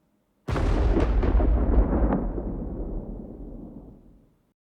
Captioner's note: lightning crashing